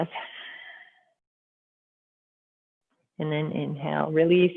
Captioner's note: exhaling